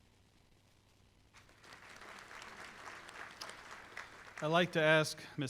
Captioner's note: applause